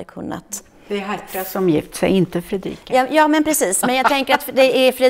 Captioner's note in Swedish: skratt